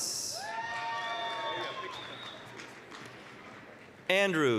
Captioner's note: applause, cheering